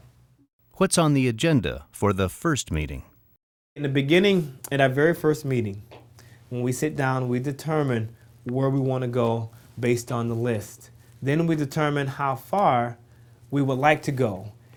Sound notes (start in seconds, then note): none